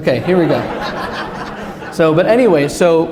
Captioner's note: laughter